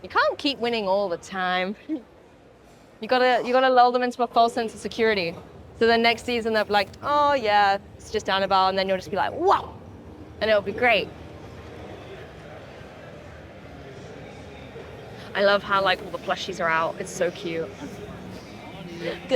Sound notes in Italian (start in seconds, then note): 12.1 lieve brusio indistinto